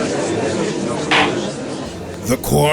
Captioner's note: gallery chattering; gavel slam!